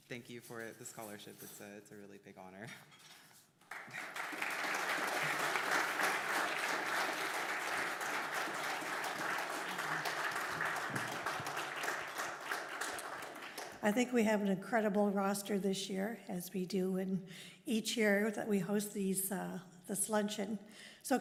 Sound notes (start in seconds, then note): 7.8 applause